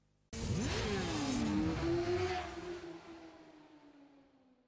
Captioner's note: motorcycles revving